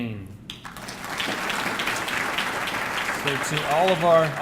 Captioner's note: audience clapping